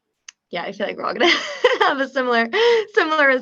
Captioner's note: laughs